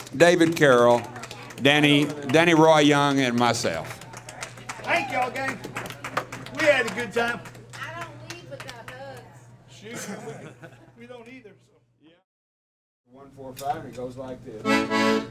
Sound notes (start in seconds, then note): 3.0 clapping; 9.9 laughing